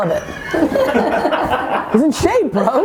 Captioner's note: laughing